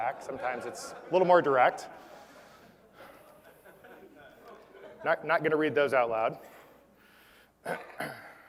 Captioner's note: laugh